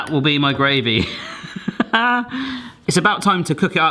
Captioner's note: laughing